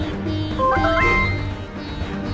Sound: message tone rings

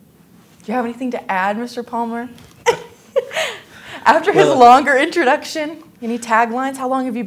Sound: laughing

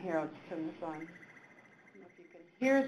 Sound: bird warbling

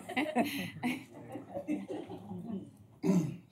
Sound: laughter

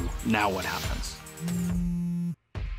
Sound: phone buzzes

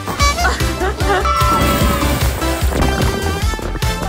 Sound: water splashing

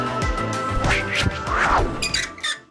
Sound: sign squeaking

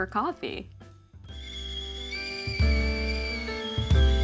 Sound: relaxing music; kettle screaming

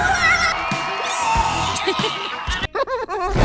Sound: monstrous scream; chuckling

